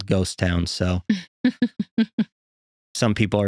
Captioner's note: laughing